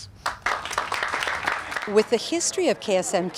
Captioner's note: all applauding